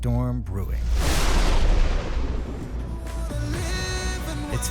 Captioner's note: thunder